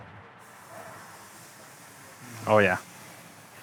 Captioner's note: steak sizzling